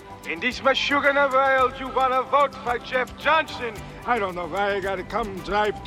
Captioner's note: yiddish Accent